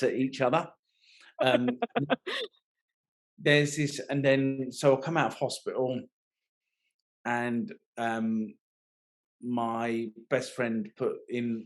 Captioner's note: laughing